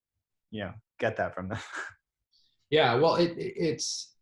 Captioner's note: chuckles